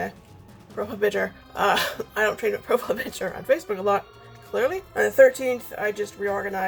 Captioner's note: laughs